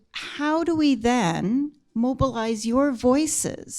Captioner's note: none